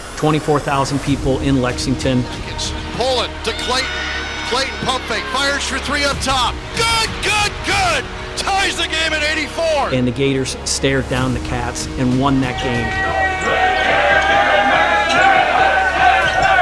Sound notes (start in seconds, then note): 13.1 chanting